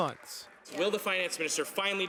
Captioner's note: applause